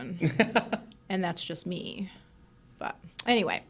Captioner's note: laughs